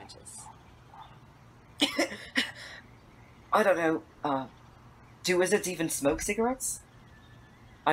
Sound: Remus half-chokes and half-laughs

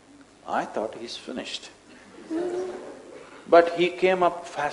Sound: few laugh

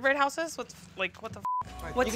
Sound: beep

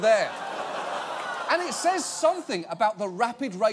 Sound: audience laughing

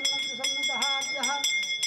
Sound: chanting

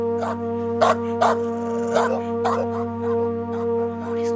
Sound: barking

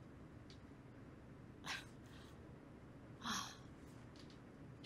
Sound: scoffing

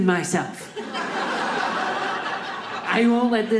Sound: audience laughing

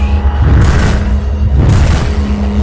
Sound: bam

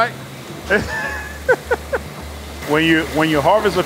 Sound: laughs

